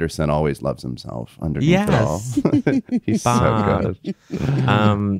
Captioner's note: laughing